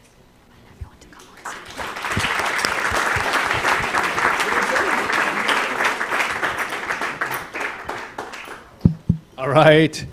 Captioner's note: applause